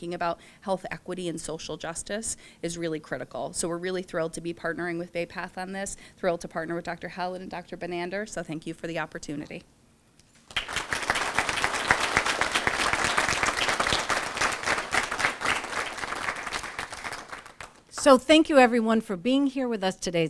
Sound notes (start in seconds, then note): 10.4 applause